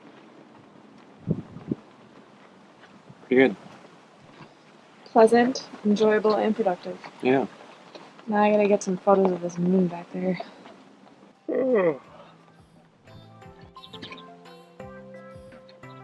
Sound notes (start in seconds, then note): 11.5 yawning; 13.3 upbeat music